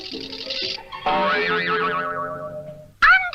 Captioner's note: boing!